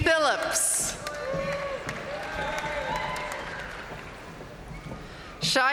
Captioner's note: audience cheering and applauding